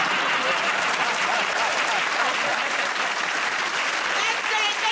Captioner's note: applause; laughter